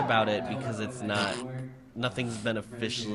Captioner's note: snort